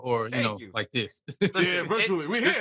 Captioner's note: laughs